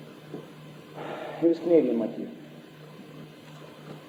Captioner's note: sighs